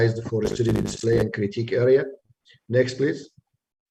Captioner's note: line trembling